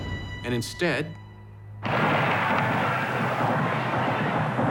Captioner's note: gunfire